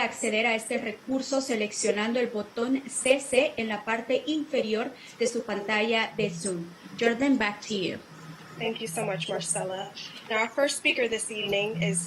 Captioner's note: spanish